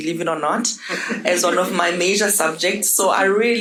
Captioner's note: audience laughing